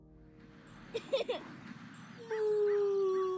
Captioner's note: laughing